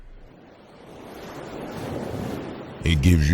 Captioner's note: waves crashing